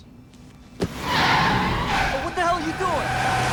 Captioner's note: tires screeching